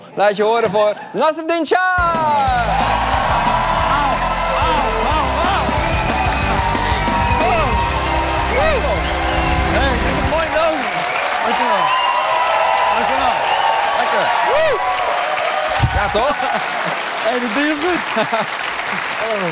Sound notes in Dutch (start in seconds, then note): 6.1 applaus en gejuich